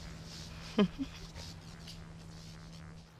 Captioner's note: soft chuckle